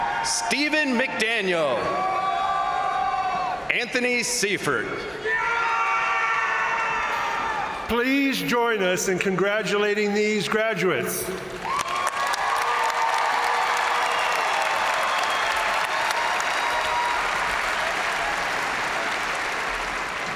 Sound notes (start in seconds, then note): 0.0 crowd cheering; 5.2 crowd applauding; 5.2 crowd cheering; 11.6 crowd applauding; 11.6 crowd cheering